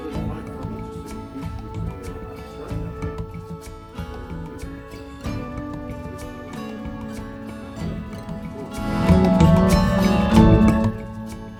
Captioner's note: upbeat music; water splashing